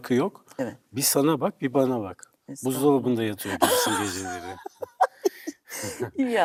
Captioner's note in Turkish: kahkaha